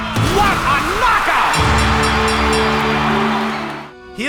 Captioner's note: bell ringing, cheering